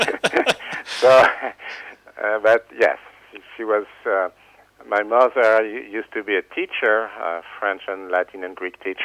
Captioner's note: laughs